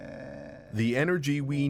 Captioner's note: speaking Japanese